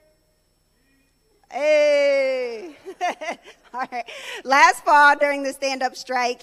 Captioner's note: speaking in native tongue